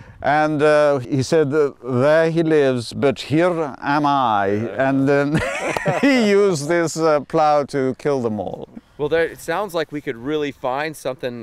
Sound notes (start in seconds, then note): 5.3 laughs